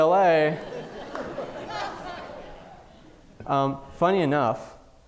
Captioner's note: audience laughing